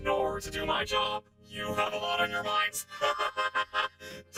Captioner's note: laughs hysterically